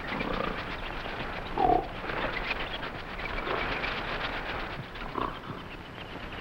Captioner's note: animals chattering; gorilla grunting